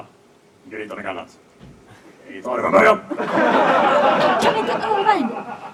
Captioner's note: audience laughs